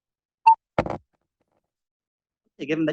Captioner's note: plink